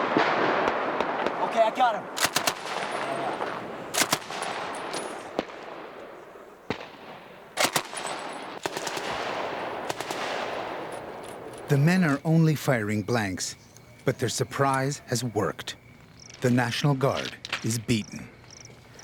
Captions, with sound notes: (gunfire) - [Voiceover] The men are only firing blanks, but their surprise has worked. The National Guard is beaten. - Okay.